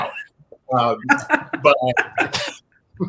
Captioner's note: laugh